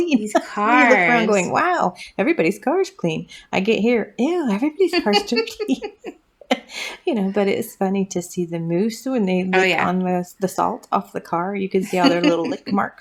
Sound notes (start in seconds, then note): 0.2 laugh; 4.8 laugh; 11.8 laugh